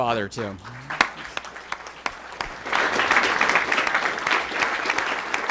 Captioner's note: applause